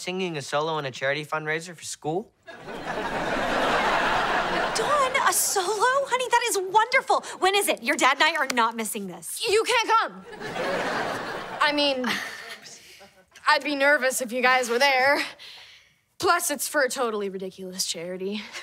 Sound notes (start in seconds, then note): 2.5 laughing; 10.2 laughing